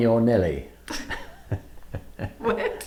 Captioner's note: both laughing